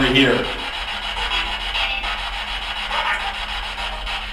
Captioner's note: static buzzing